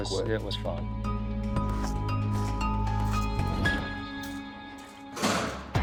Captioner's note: gentle instrumental music; footsteps shuffle